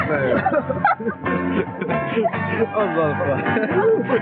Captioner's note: laughing